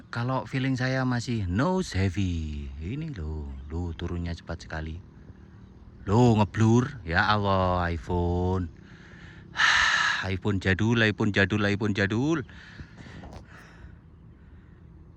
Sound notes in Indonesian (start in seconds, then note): 8.8 terkesiap; 8.8 menghela napas